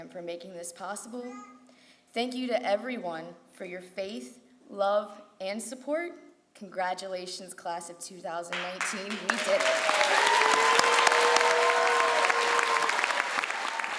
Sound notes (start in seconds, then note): 10.3 crowd applauds